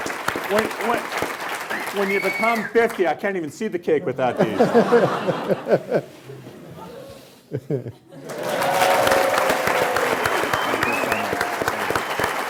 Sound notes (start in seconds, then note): 6.6 cheering; 6.6 clapping; 7.5 laughing